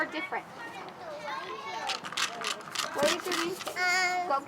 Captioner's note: rattle and brush-like sounds